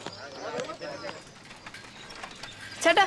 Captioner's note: humming